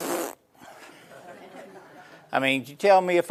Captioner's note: spits; laughing